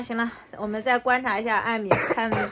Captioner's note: cough